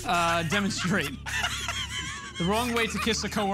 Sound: laughing

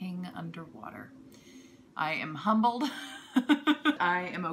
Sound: laughter

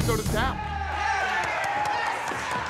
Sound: commotion

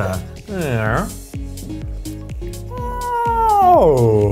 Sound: exclaims

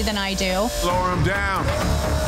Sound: dramatic music; lift whirring

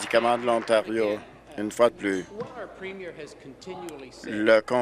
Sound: applause

